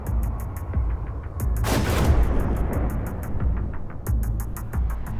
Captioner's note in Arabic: دوي الانفجار